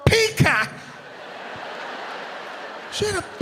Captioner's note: audience laughing